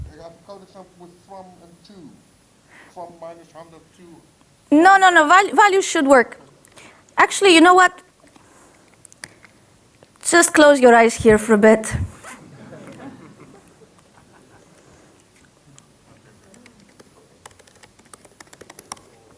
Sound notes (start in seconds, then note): 12.2 audience laughs; 16.0 audience talking